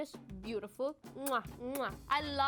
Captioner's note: blowing kisses